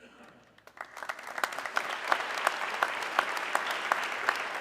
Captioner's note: audience clapping